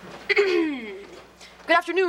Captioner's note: Ethan clearing throat